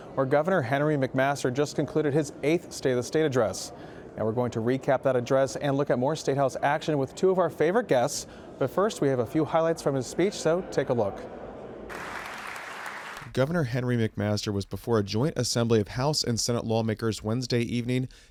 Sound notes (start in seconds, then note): 11.9 applause